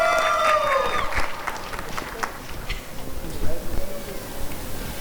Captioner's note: applause and cheering